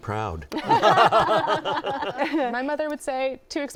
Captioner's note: laughter